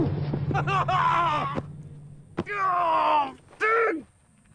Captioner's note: restrained screaming